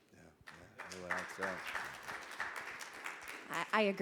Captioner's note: audience clapping